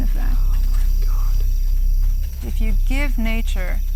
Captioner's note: whispers